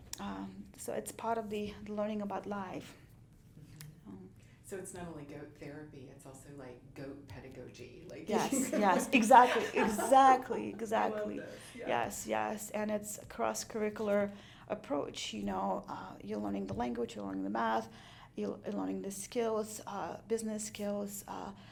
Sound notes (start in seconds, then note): 8.4 laughs